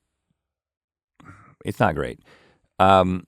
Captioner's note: sighs